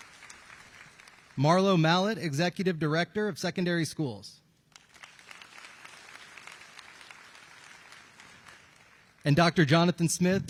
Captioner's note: applause